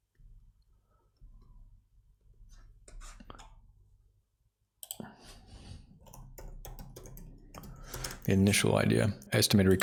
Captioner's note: silence